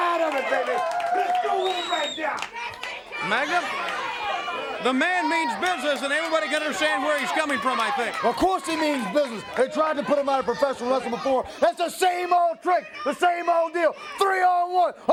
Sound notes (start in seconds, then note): 3.2 crowd chatter